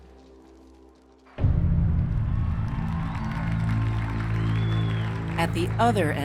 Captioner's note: audience cheering